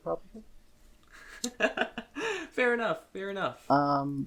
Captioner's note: laughs